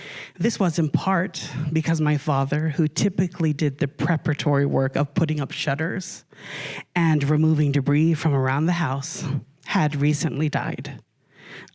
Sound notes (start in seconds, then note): none